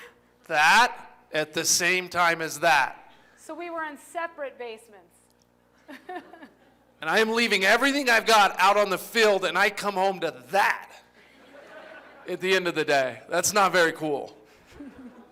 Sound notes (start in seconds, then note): 5.8 laughter; 11.2 laughter; 14.5 laughter